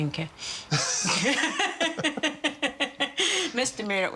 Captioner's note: laughing